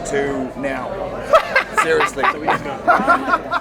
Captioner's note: laughter; cackles